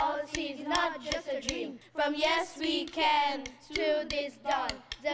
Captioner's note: chanting